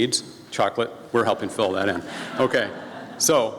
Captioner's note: laughing from audience